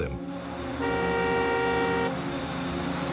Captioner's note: honking